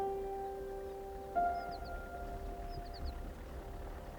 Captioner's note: birds chirping; gravel rustling